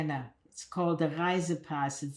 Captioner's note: german